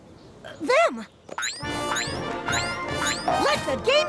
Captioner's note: boing! Boing! Boing!